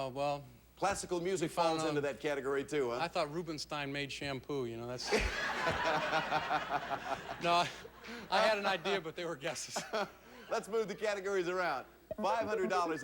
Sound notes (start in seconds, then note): 5.1 audience laughing